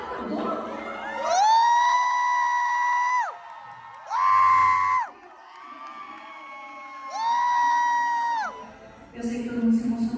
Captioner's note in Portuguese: gritos